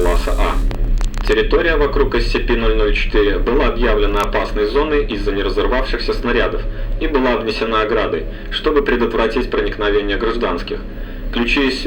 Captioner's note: static